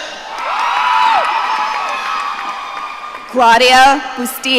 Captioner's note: audience cheering